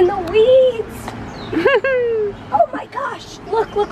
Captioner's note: chuckles